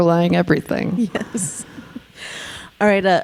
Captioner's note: chuckling